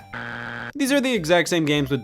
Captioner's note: buzzer beeps